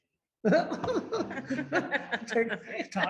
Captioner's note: attendee and lecturer laughing